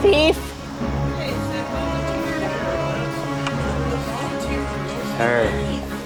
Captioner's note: crowd chatters